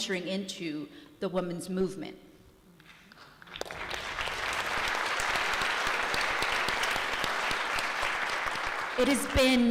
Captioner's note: applause